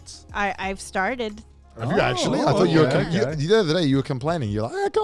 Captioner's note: hosts laugh